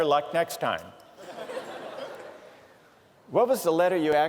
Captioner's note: laughter